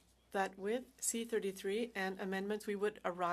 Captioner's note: speaking French